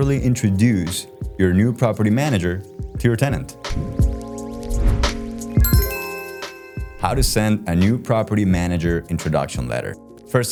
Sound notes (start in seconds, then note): 4.2 light upbeat music; 5.6 bell lightly chiming